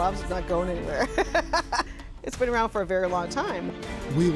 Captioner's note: laughs